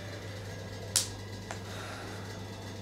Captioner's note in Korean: 깊은 한숨